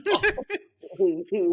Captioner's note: both laughing